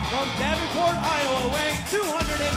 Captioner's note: crowd cheering